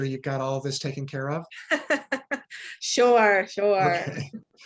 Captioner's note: laughs